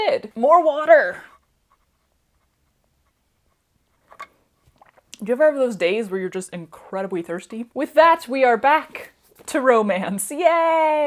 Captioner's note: slurping